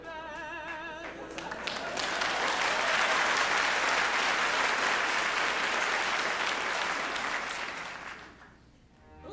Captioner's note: applause